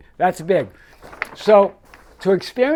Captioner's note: paper rustling